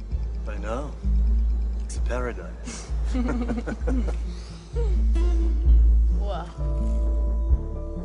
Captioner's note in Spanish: Risas